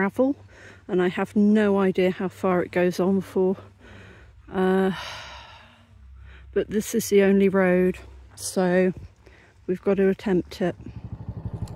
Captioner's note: sigh